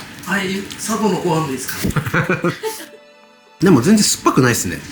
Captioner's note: laughs